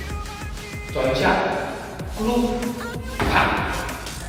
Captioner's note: bang